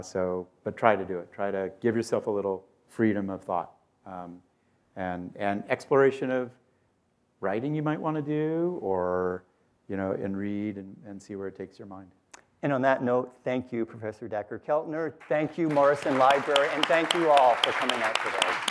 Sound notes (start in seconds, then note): 15.2 applause; 18.5 applause continues